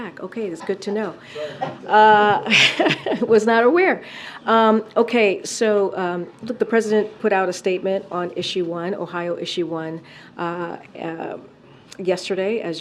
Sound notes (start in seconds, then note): 2.3 laughs; 2.4 laughter